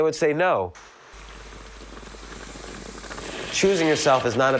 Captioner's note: coffee trickles